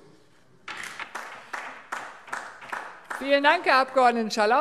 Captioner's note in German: Beifall DIE LINKE